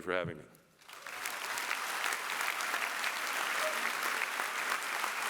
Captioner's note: applause